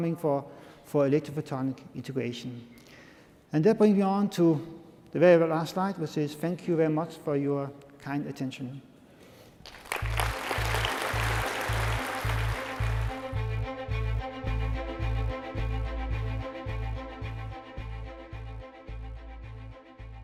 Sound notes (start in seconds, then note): 9.6 applause